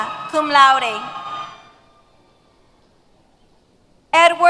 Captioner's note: cheers